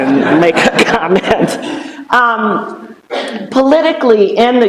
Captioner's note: laughter